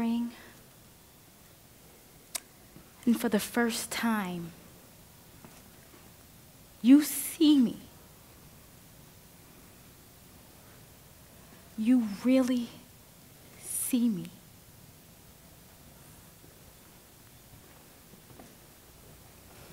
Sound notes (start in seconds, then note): 2.3 clicks lips